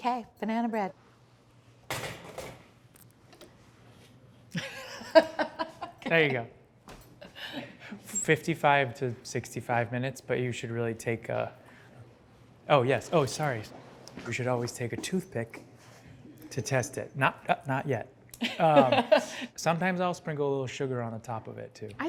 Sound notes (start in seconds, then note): 4.5 laughs